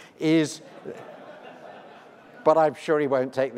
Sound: laughs

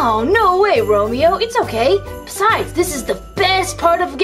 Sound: none

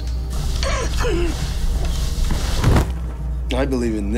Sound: gagging

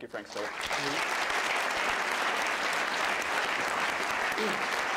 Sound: applause

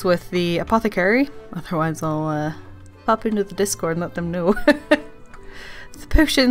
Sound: laughs

